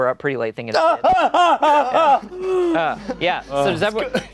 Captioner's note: yelling